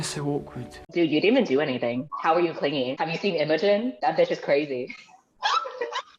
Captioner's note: laughs